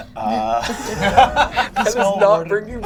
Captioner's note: all laugh